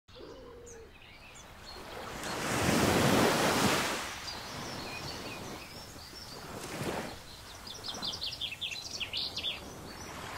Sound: soft ocean waves and songbirds chirping

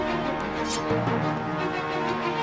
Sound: sword unsheathed

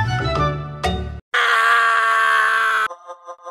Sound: scream

